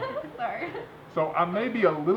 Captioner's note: laughter